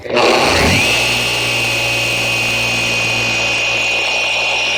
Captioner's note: machine engine whirs